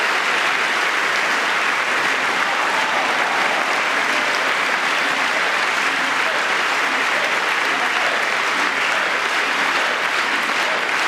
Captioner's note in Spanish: aplausos